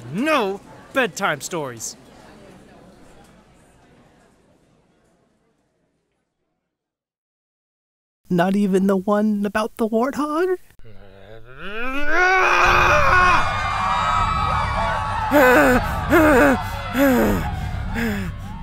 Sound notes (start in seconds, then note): 11.5 Joe screams; 13.4 crowd panics